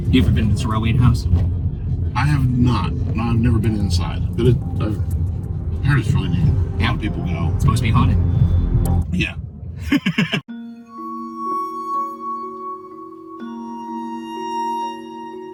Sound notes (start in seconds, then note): 9.8 laughs; 12.3 slow, creepy music